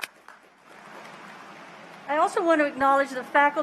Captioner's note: applause